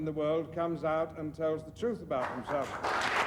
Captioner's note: applause